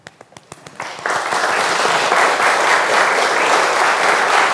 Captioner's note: audience applauds